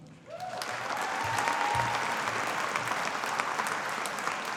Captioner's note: audience applauding